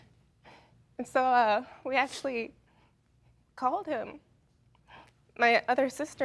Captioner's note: voice breaking